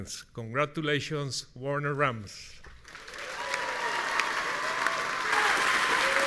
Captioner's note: audience cheering